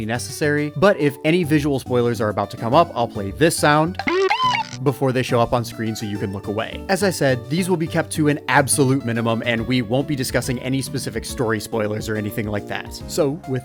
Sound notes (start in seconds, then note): 3.9 Bidoof Cry